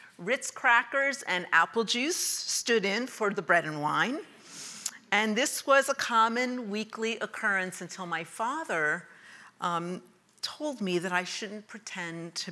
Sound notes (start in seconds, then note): none